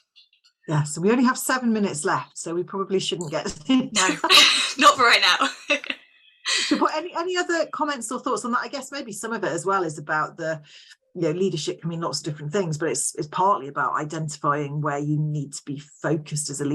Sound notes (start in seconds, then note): 3.5 laughter; 6.5 laughs